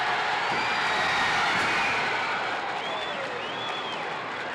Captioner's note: crowd cheering